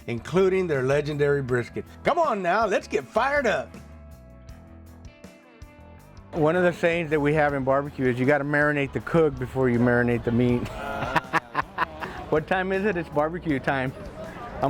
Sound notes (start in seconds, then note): 10.6 laughs